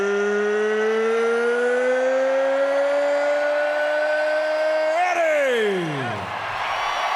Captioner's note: applause